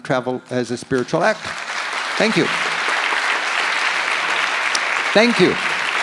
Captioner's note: audience applauds